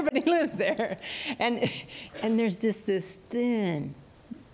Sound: laughter

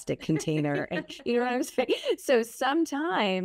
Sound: laughing

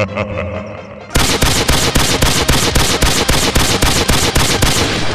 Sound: evil laughter; gunshots

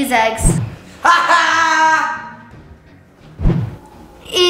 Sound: laughs

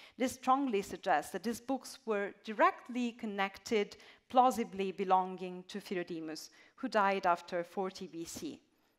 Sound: none

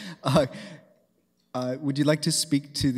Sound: laughing

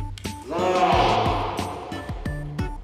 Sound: echoes

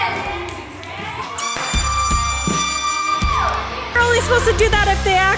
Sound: air horn sounding

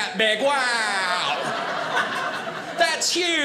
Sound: audience laughing

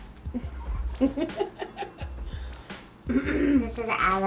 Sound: woman laughs

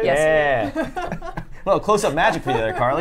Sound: chuckles; laughs

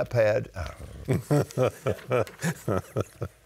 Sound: laughing

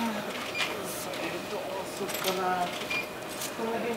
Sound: talking expressively on phone

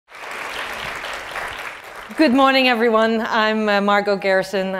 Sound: applause

